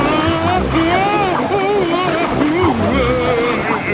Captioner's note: Daddy Pig shouting